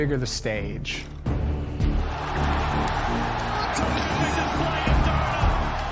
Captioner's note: all cheering